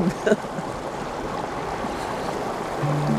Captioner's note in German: Plätschernder Bach